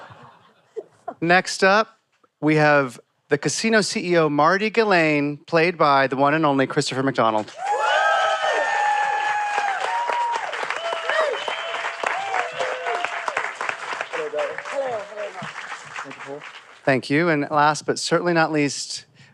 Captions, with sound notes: Next up, we have the casino CEO, Marty Ghilain, played by the one and only Christopher McDonald. [cheering, applause] -Hello, darling. -Hello. Hi, Paul. Thank you, and last but certainly not least,